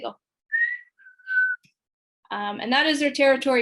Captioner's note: whistling